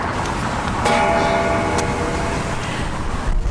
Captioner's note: bell ringing